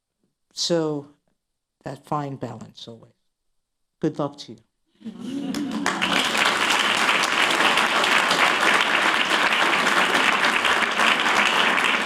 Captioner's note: applause